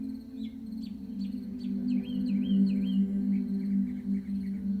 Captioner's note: birds chirping